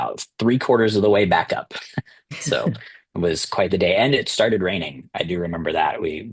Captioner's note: laughter